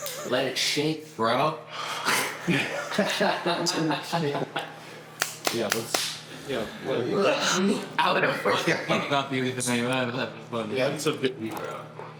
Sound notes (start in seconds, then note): 4.8 smacks lips